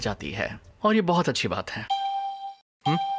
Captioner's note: alarm beeping